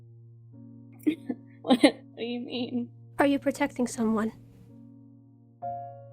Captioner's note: laughs weakly